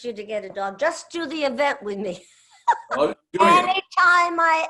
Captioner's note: laughs